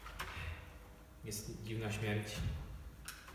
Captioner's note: stutter